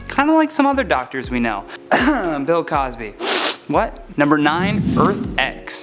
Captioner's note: cough